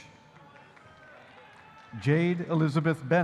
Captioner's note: audience applauding